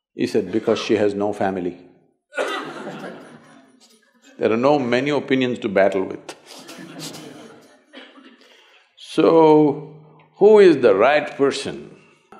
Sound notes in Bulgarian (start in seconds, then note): 2.4 смях; 6.4 смях в залата